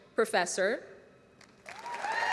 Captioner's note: applause